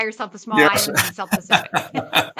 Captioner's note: laugh